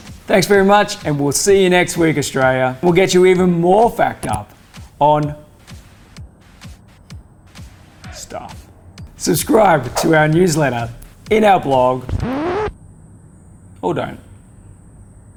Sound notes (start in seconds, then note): 12.0 record scratch